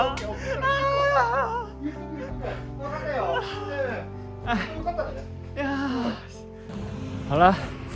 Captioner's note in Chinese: 喜極而泣